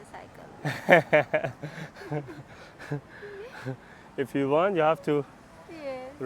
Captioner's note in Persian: خنده